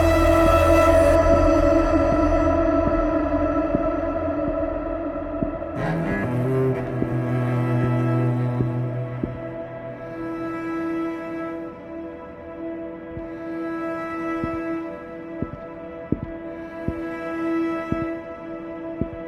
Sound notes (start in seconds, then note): 0.4 ominous music; 5.7 foot steps; 16.1 foot steps